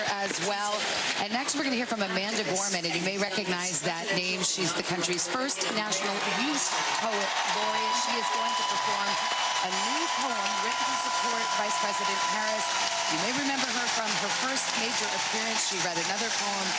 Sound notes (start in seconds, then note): 2.0 cheers and applause